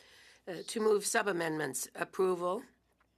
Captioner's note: speaking French